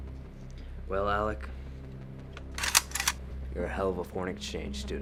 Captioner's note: gun clacks